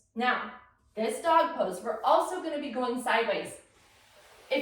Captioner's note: none